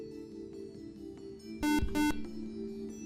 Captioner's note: buzzer